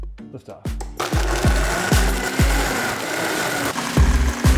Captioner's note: blender whining